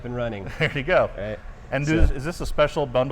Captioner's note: laughing